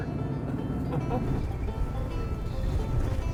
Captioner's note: laughter